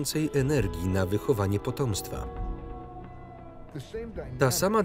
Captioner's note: wolf howls